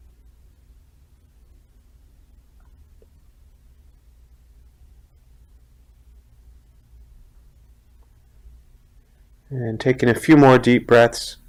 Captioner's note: silence